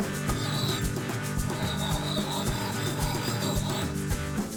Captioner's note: axe grinding; upbeat music